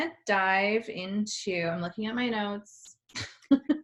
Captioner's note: laughs